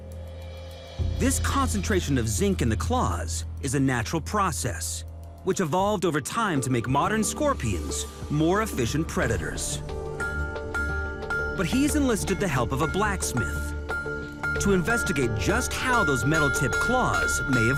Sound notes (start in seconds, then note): 10.2 metal clanging